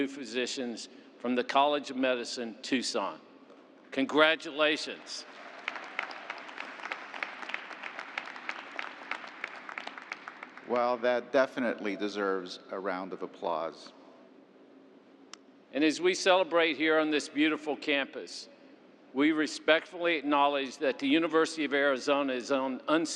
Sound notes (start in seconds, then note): 9.5 applause